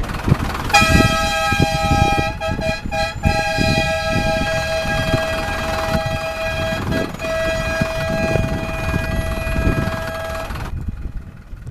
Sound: hooter

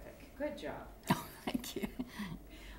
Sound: laughter

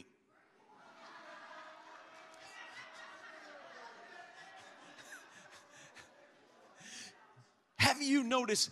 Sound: congregation laughs

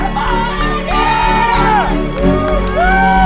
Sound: spectators cheering

